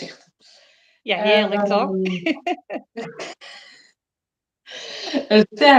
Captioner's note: laughs